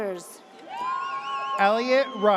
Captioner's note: audience cheers